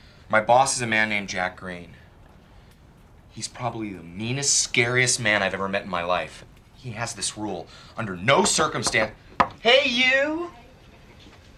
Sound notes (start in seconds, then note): 9.4 knocking on the door